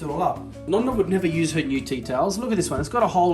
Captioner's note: speaking Italian